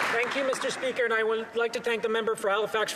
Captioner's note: some Applause